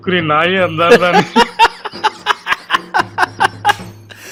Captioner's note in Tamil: சிரிப்பு